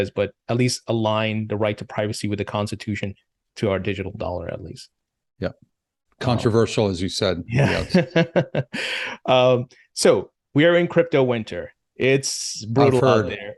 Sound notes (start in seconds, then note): 7.6 laughter